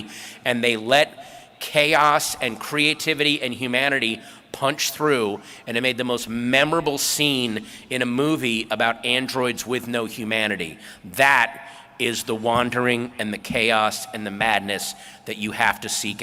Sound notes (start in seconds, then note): none